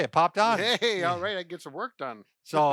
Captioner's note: laughs